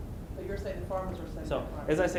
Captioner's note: voiceover